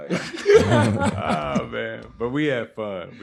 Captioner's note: laughing